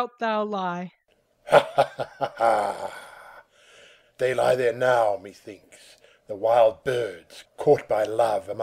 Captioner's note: with a laugh